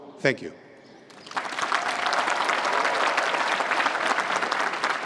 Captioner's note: applause